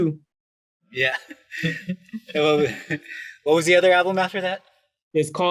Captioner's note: laughs